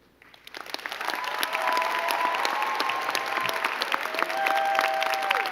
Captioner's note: crowd clapping and cheering